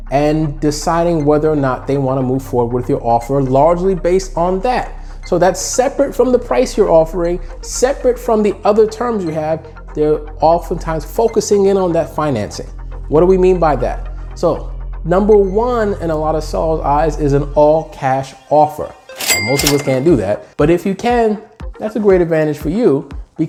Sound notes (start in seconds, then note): 19.1 cash machine clicking